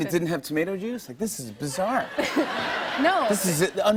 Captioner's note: laughter